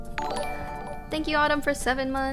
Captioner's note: notification tingling